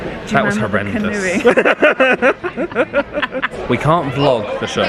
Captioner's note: both laughing